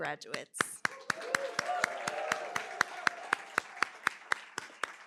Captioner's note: applause